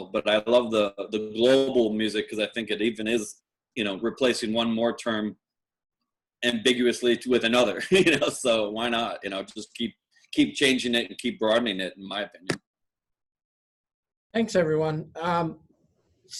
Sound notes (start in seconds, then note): 8.4 laugh